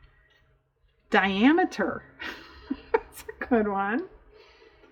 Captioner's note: laughs